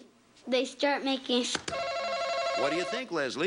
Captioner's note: buzzer buzzes